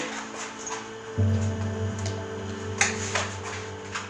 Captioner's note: objects clattering